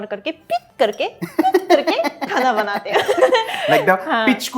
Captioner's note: laughs